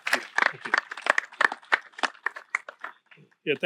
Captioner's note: applause